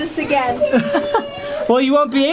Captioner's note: chuckles